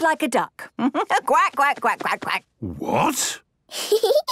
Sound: quacks

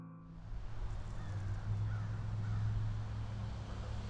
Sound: birds cawing

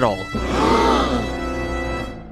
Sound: gasps

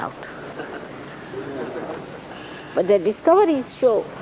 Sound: laughter

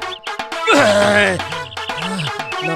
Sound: grunts

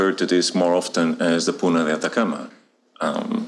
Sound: none

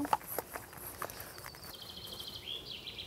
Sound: birds chirping

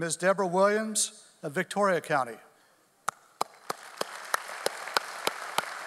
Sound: audience applauding

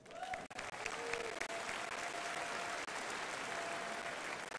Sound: crowd applauding

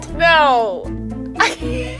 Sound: laughing

